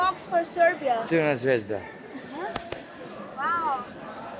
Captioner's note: speaking Serbian